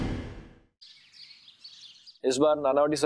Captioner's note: birds chirping